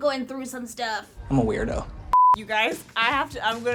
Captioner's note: beep